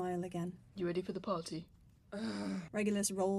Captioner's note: Regulus groans